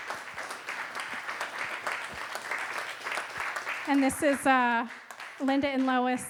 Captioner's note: applause